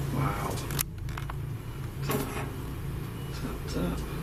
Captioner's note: loud thumping